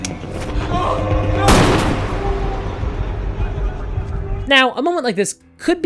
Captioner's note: gunshot